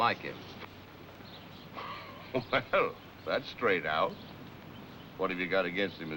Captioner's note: chuckles